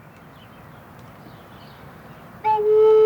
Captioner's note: birds chirping; pan flute whistling